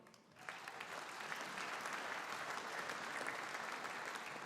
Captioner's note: audience applauding